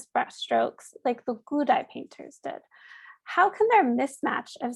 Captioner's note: speaking in Mandarin